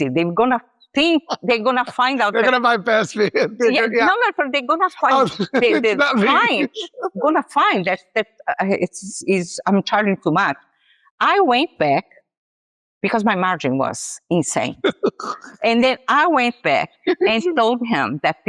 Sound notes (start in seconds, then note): 14.8 laughs